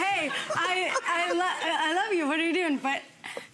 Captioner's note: audience laughs